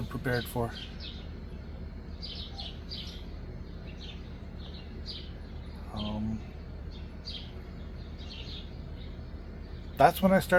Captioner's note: birds chirping